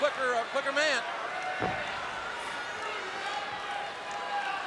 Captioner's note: crowd yelling